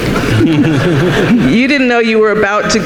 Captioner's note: audience laughing